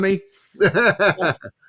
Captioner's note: laughing